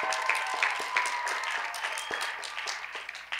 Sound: cheers and applause

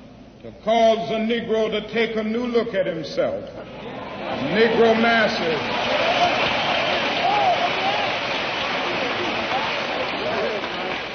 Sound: applause

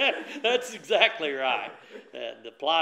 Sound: laughter

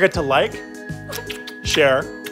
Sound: kiss

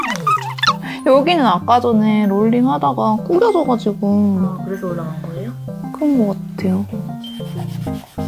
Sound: sob

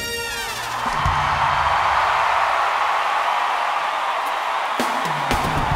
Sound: audience cheers and applauds

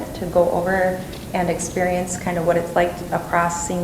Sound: none

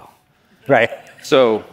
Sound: laughs

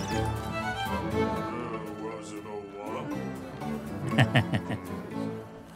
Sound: laughs

